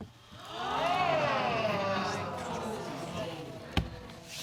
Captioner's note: audience gasping